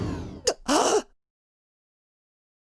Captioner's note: gasp